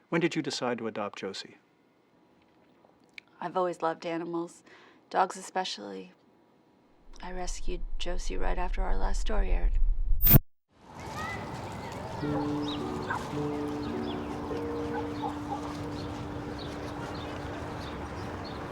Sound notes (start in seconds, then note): 12.3 soft dramatic music; 14.5 birds chirping